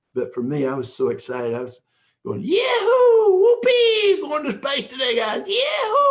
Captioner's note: yelling